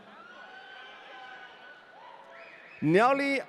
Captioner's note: audience cheering